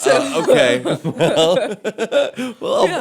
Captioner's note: laughter